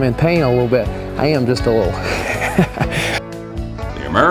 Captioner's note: laughter